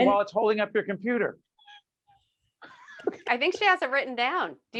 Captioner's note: laughing